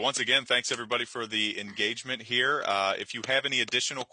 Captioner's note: claps